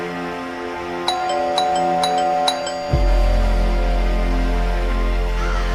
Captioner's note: crickets, scary music; crickets, scary music, doorbell repeats